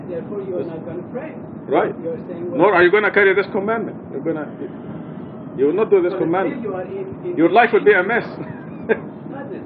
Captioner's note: gülüyor